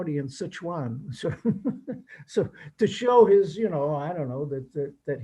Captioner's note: laughs